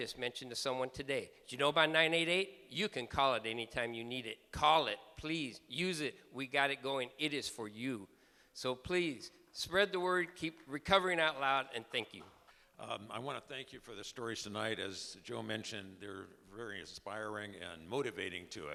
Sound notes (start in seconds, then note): none